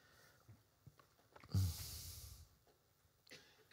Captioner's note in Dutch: stilte